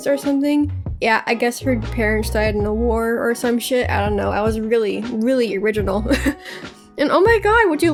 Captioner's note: laughs